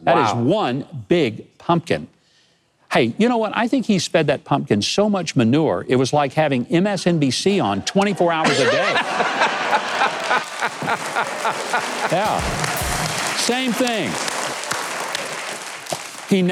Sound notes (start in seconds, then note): 8.1 audience laughing; 14.3 audience clapping